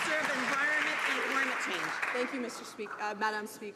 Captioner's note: some Applause